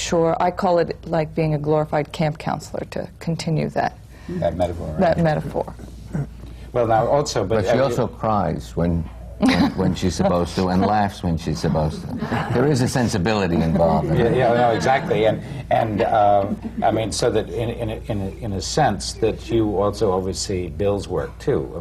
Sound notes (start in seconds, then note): 9.4 laughs; 11.6 laughter